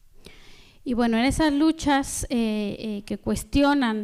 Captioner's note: speaking spanish